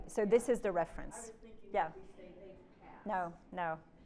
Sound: participant 2 faintly speaking

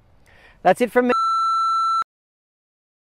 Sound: beeps

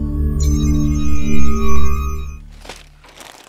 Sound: electronic whirring

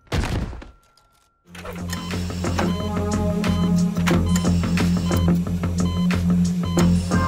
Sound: thudding; beeping, music playing

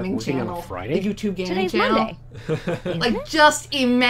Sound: laughs

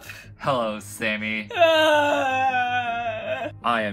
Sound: groaning

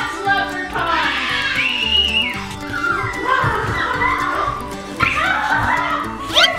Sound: shrieks

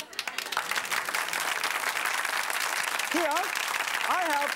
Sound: audience claps

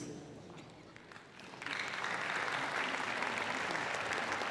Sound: applause

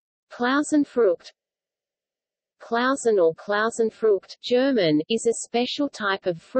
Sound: german

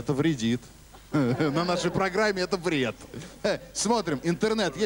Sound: laughter

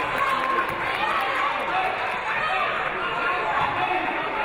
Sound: audience applauding

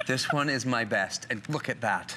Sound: laughter

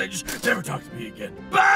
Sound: armor clinks

